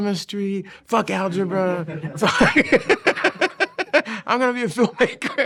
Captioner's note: laughing